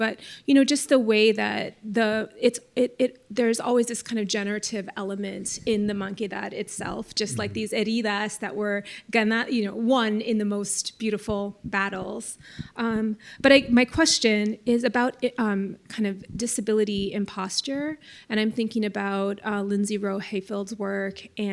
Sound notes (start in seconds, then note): 7.9 spanish